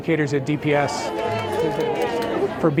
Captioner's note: claps